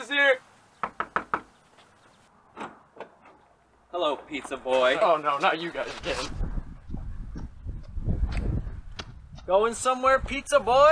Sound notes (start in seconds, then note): 0.8 Pizza Guy is walking up to building and knocks; 2.6 knocks again